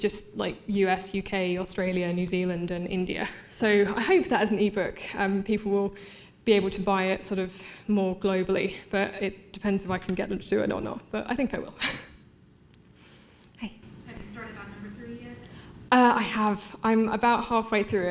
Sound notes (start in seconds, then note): none